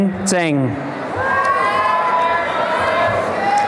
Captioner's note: applause and cheering